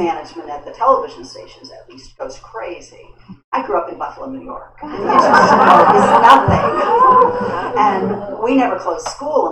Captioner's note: laughter